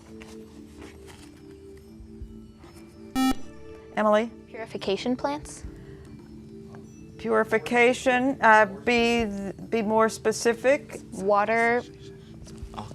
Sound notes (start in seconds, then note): 1.5 buzzer